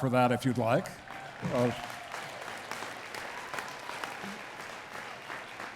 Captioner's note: attendees clapping